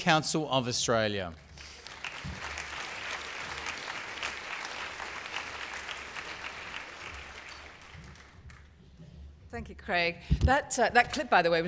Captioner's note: applause